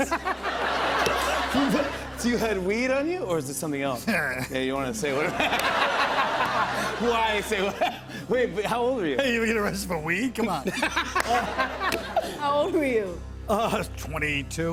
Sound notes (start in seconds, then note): 0.0 laughter; 5.1 laughter; 5.1 laughs; 10.6 laughter